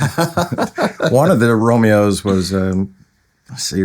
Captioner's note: laughing